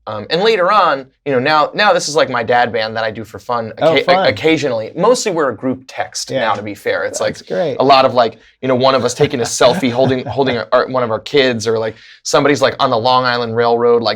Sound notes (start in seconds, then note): 8.9 laughter